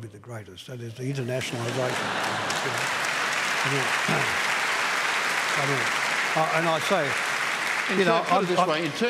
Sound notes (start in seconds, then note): 1.4 applause